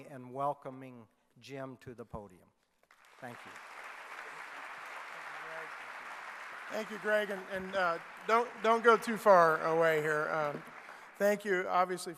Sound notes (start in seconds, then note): 4.1 clapping